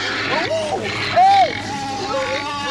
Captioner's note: pigs snorting